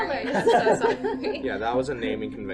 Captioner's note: laughter